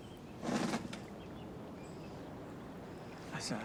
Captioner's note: chair creaking